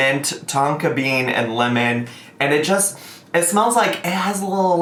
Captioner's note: sniffs